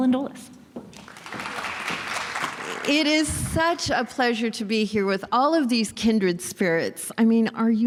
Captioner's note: applause